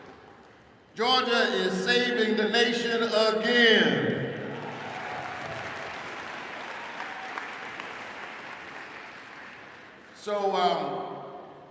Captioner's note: applause